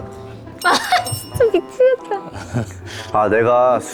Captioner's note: can't help but laugh